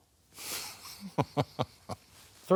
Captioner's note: laughing